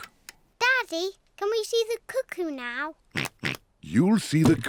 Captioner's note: oinks